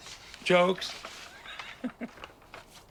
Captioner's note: laughs